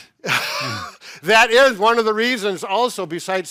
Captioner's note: laughs